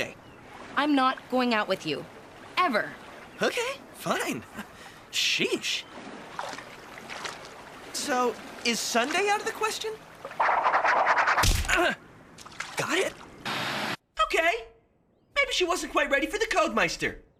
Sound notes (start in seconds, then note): 11.7 Cody Groaning